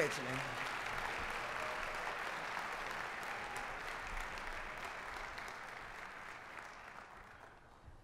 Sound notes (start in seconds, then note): 0.0 applause